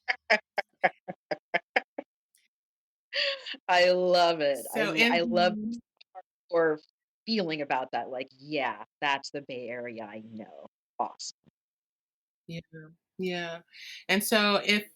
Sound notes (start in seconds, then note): 4.1 laughter